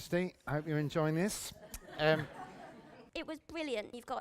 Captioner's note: laughter